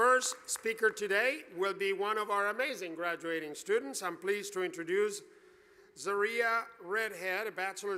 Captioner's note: applause